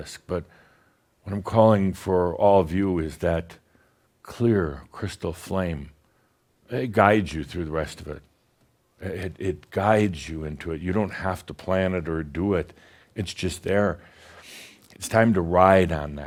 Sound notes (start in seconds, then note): none